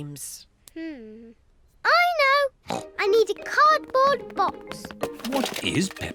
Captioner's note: snorts